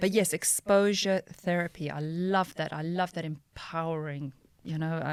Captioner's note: none